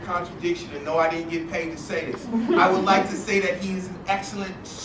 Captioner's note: laugh